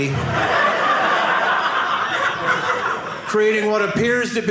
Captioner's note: audience laughing